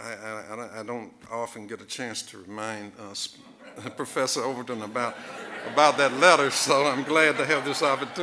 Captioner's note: audience laughing